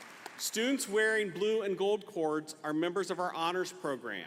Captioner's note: applause